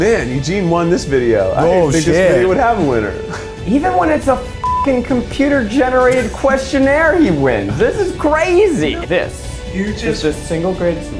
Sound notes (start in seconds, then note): 4.6 beep